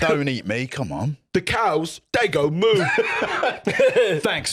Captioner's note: laughs